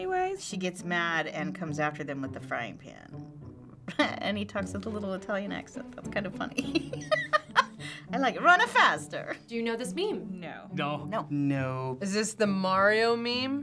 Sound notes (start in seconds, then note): 6.6 laughing